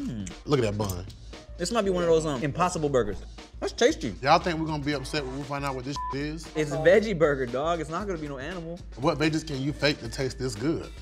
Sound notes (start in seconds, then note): 5.9 beep